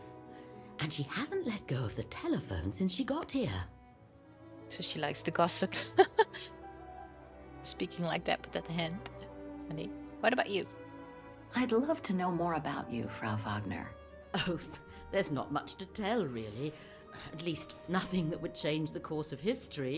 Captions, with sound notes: So she likes to gossip *laughs* Speaking like that with that hand funny.. What about you?